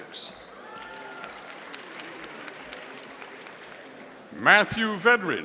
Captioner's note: audience applauding